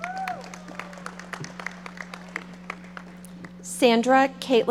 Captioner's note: audience applauding